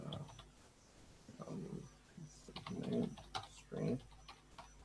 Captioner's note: mumbling to himself